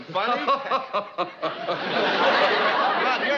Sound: laughing

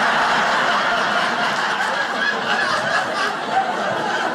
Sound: audience laughing

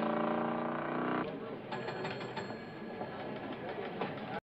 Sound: bell Rings

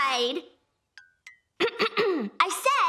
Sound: clearing throat

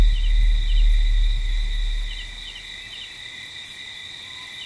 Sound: light drums banging; crickets chirping

